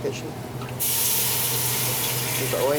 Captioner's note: liquid sputtering